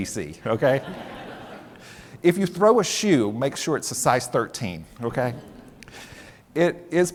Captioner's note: laughter